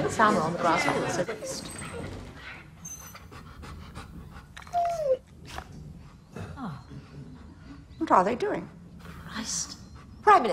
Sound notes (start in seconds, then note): 2.9 dog panting; 2.9 dog whining